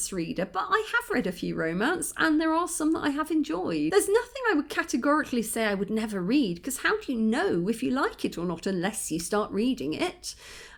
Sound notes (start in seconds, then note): none